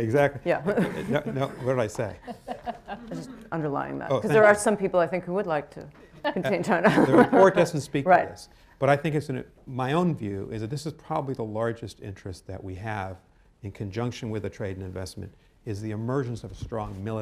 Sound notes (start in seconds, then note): 6.2 laughs